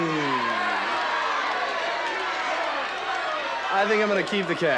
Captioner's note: audience cheering